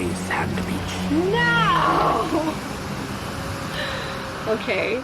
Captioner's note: laughs